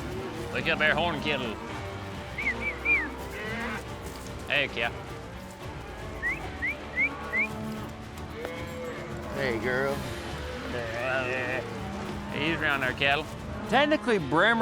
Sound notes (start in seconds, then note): 6.1 whistling; 8.0 cows moo